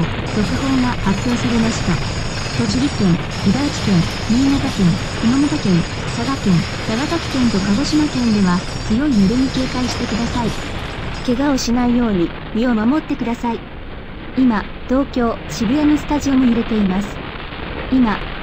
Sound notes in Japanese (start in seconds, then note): 0.2 ラジオ